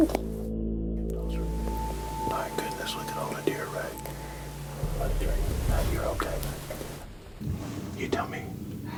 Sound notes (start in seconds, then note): 3.1 whispering